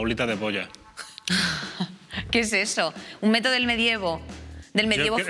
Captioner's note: laughter